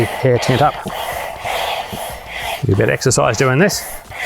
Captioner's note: air whooshing